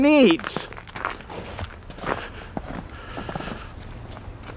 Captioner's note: panting